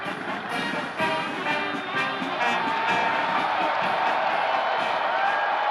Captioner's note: cheering and applauding; marching band playing; cheers and applause continue